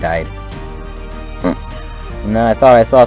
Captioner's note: raspberry noise